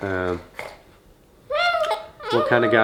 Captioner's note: coos